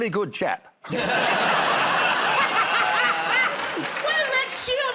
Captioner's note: laughter